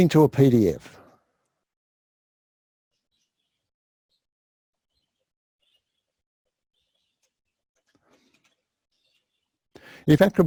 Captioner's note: pause